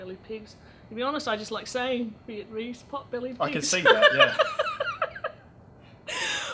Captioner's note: laughs